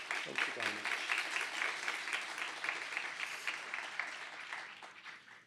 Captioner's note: applause